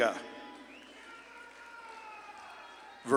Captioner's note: audience claps and cheers